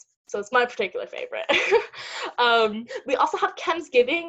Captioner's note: laugh